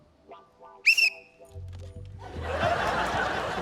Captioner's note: blows whistle; laughter